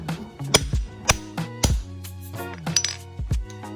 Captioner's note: hammer clangs and pings; upbeat music